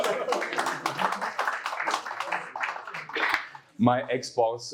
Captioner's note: applause